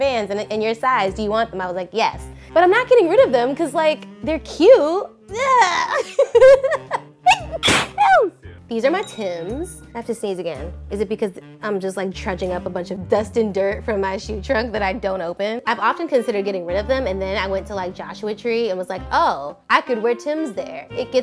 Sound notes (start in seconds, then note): 7.3 sneezes